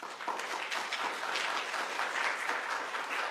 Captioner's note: applause